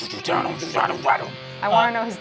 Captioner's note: guitar music; imitating guitar